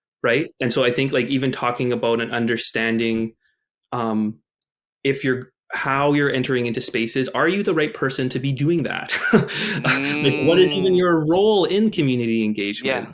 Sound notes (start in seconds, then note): 9.1 chuckles